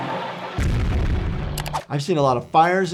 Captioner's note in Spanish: explosiones